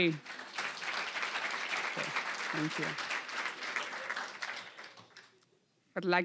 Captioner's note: applause